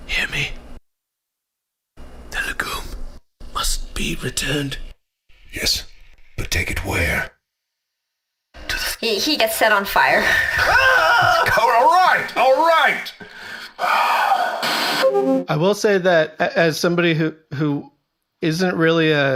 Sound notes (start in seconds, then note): 10.2 screaming